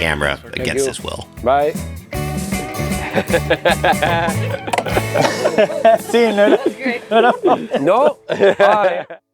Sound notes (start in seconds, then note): 2.8 laugh; 6.3 speaks Spanish